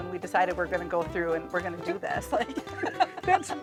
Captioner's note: laughs